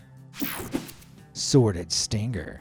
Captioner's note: screen buzzes and whooshes